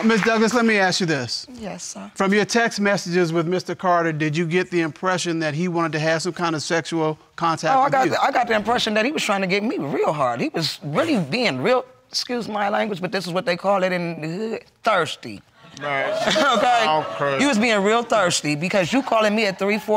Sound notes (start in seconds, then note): 15.8 audience exclaiming